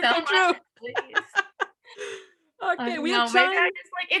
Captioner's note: laughs